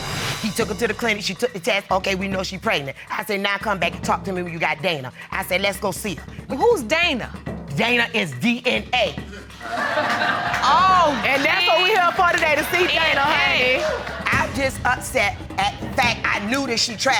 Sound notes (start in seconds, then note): 9.5 audience laugh